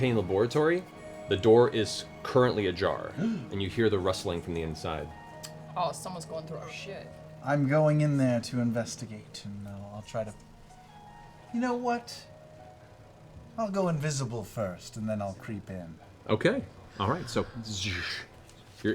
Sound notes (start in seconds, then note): none